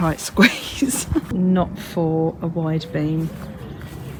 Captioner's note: laughs